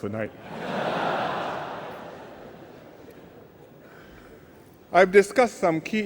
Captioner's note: laughter